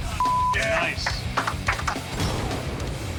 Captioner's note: gunshot